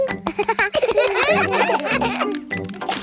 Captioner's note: children laugh